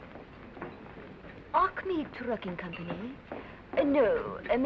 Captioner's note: Russian accent